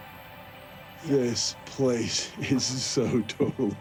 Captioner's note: laughing